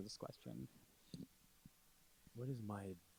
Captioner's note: laughing